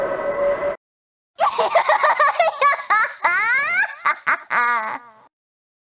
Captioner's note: laughter